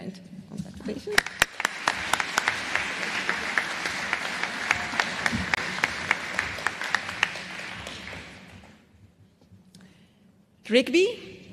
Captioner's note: applause